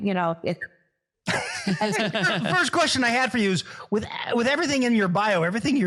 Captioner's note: laugh